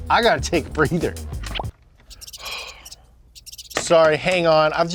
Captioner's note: squeaking talking